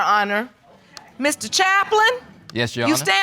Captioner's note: audience murmurs